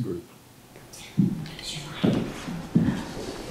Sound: shoes thud across stage

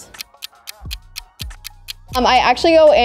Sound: clock ticking

